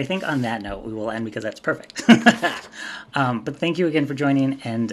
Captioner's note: laughs